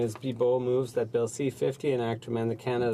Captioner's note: speaking French